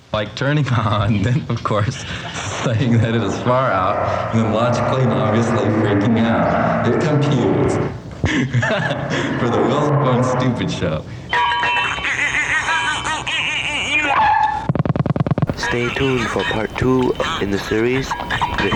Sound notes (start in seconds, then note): 8.2 laughter; 11.7 bells ringing; 13.5 party noisemaker, dog barks; 14.5 electronics tapping